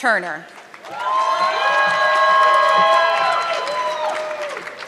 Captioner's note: audience clapping